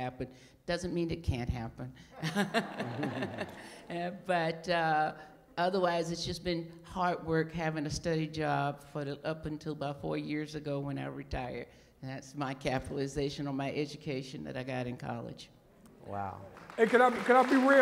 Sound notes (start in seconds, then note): 16.4 applause